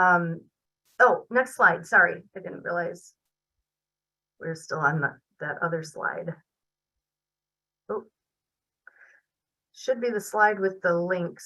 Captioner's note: pause